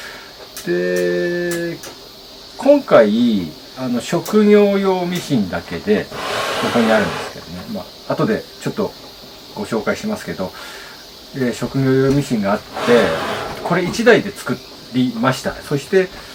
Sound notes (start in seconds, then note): 6.0 straight line sewing machine